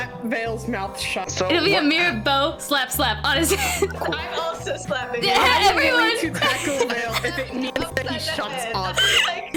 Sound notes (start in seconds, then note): 3.5 laughter; 9.0 weeze